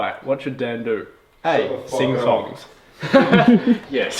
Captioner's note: all giggle